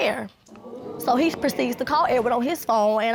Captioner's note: audience gasping